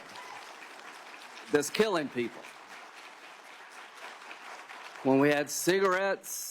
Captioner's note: cheers and applause